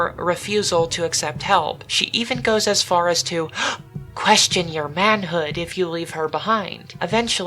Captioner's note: gasp!